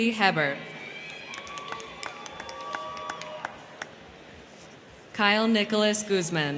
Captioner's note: crowd cheering; crowd clapping